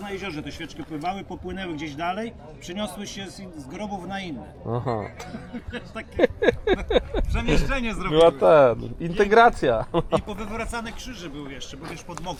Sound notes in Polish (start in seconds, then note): 4.7 śmiech